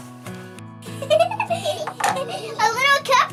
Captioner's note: giggling